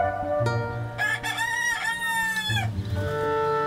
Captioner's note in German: Hahn kräht